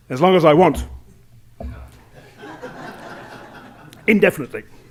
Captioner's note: laughter